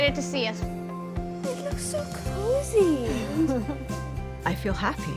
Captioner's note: laughing